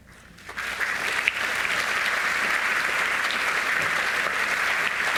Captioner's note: audience applauding